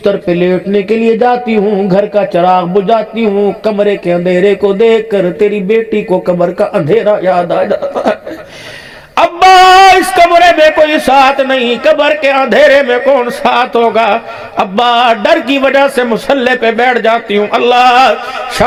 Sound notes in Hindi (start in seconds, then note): 7.8 हंसी